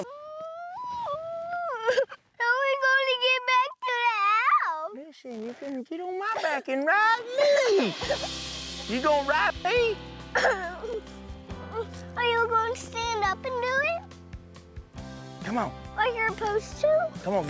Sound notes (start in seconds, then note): 0.1 crying; 10.8 crying stops